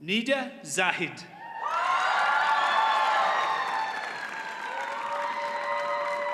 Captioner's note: audience cheers and applauds